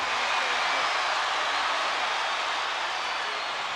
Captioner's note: crowd cheering